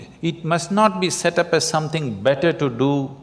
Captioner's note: none